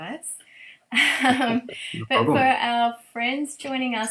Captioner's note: chuckles